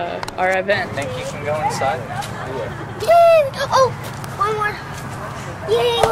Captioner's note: child excited